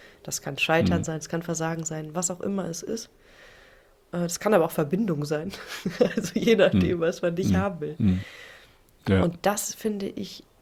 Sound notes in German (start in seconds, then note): 0.8 räuspern; 5.5 gelächter